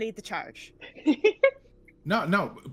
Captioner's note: laughing